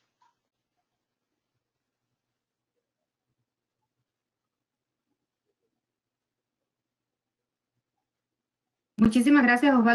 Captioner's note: silence